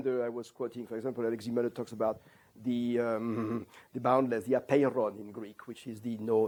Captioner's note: non-english